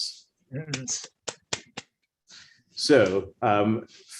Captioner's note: clapping